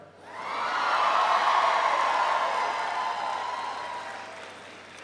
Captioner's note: audience cheers